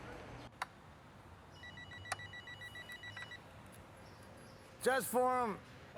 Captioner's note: phone rings